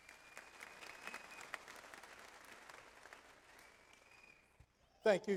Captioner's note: audience applauds